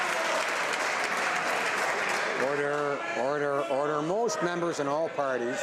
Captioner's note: some Applause